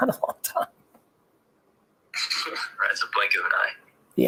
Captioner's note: laughing